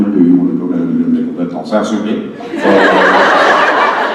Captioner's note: thick French accent, quickly; audience laughs